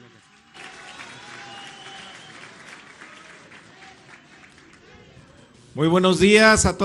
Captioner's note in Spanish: aplausos